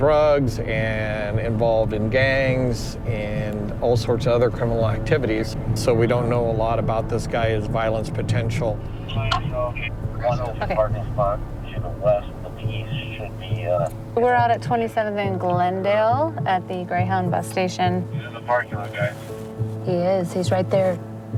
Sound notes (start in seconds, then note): 10.6 people talking on radio; 14.1 radio continues